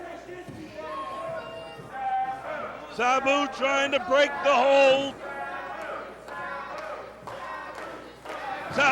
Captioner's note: crowd chatter